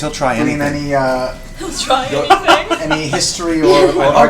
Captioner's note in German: lacht